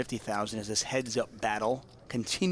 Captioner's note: none